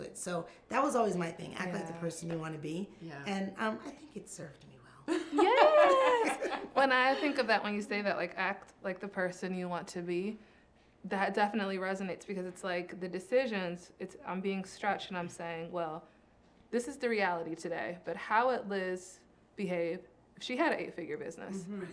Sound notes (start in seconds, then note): 5.1 laughs